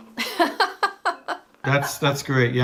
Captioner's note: laughing